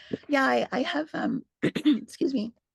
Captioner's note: clears her throat